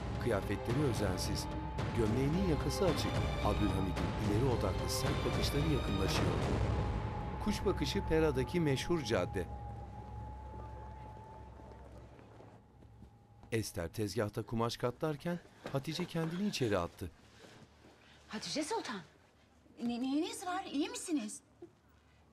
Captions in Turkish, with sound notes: (Müzik - Gerilim) (Sokak ortam sesi) (Nefes sesi) Hatice Sultan, neyiniz var? İyi misiniz?